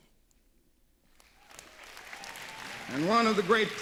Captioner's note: applause